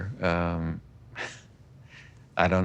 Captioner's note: chuckles